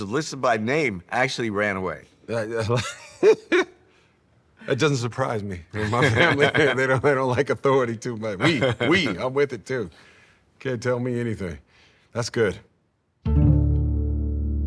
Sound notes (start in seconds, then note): 2.7 laughs